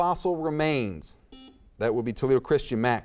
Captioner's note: buzzer beeps